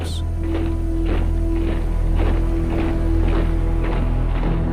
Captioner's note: feet marching